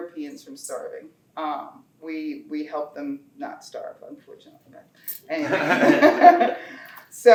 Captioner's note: laughter